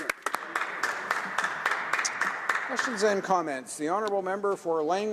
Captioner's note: some Applause